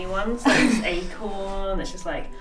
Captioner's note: laughs